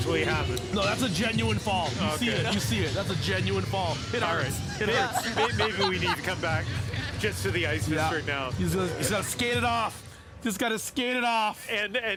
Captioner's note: laughs